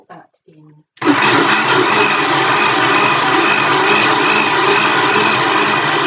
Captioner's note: food processor whirring